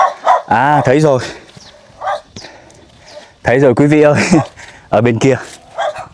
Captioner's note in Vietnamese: hắng giọng